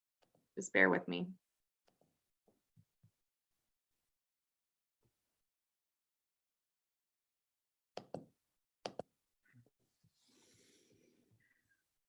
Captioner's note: silence until connection es established